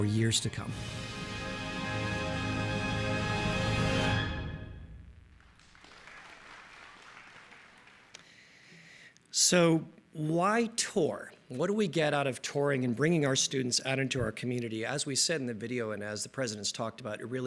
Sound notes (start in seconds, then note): 8.2 applause